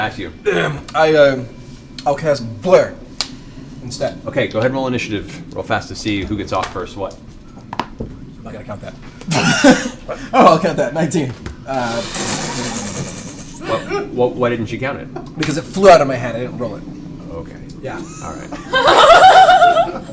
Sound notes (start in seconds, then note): 12.2 laughter